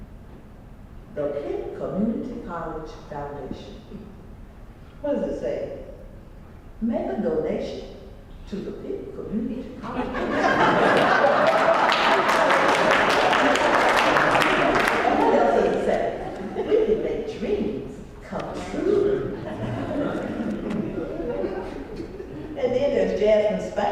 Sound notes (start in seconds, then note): 10.9 applause; 18.6 laugh